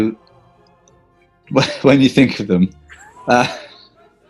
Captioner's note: chuckling